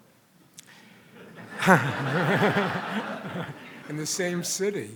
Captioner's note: audience laughs